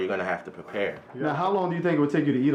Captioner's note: voiceover